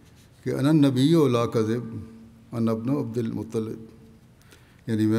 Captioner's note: Arabic